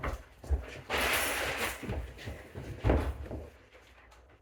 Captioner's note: items clattering